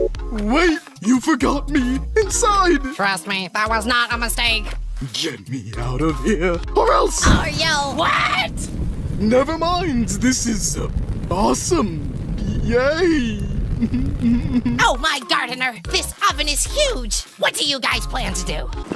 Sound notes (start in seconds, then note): 13.8 uncomfortably giggles